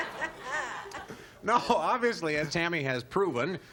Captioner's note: laughter